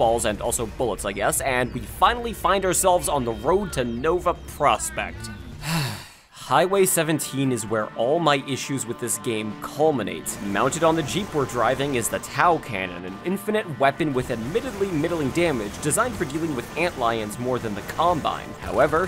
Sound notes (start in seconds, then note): 5.6 sigh